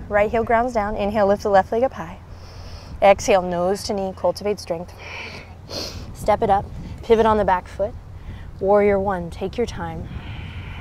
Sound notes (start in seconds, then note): 2.3 takes deep breath; 5.6 blows out breath